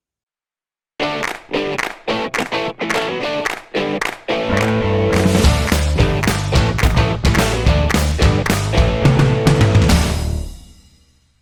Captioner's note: claps